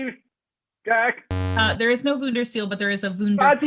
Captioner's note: error Sound